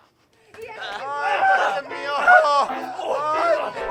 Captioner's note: indistinct moans